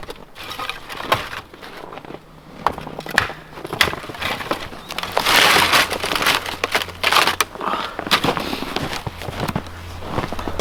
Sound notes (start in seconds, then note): 2.6 wood clanking